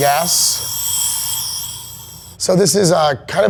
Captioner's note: gas hissing